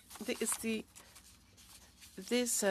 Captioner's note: speaking French